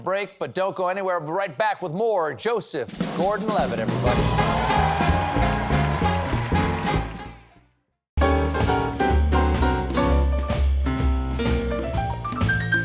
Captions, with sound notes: DON'T GO ANYWHERE. BACK WITH MORE JOSEPH GORDON-LEVITT, EVENED. ( CHEERS AND APPLAUSE ) ( BAND PLAYING )